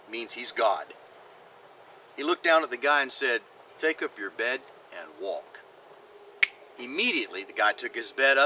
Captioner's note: finger snap